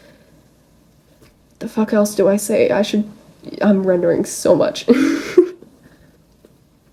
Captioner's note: laughs